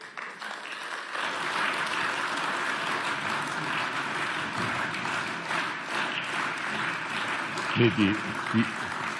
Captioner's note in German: Beifall